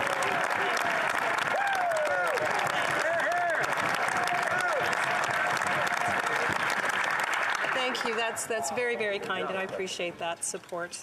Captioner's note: some Applause